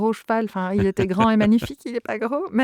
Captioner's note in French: Rires